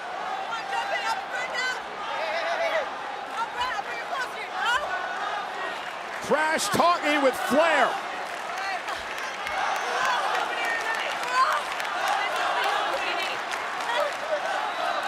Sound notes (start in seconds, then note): 11.0 crowd cheering